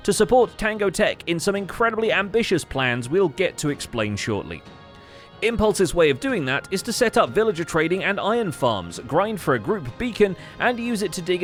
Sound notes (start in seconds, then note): none